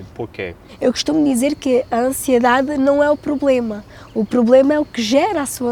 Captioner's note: speaking in Portuguese